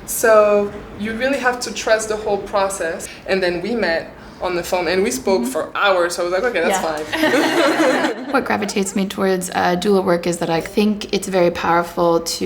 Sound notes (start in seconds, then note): 6.6 laughing